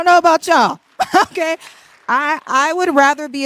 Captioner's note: audience claps